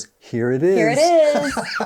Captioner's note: laughs